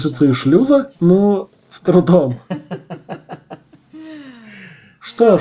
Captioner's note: they laugh